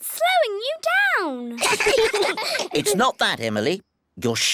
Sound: all giggle

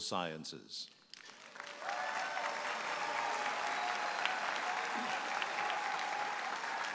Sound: audience applauding and cheering

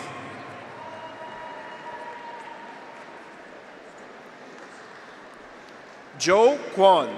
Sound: graduates cheer; audience applauds

